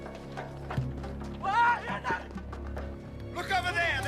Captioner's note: yelling